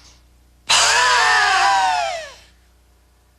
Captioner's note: breathing; screaming